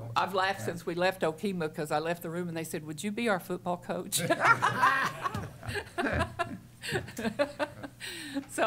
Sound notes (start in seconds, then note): 4.5 laughter